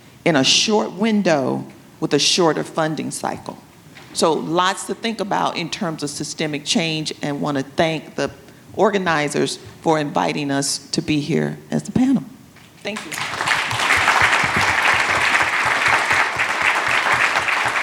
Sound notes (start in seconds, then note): 12.9 attendees applauding